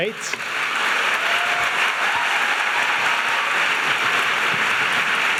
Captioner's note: audience applauding and cheering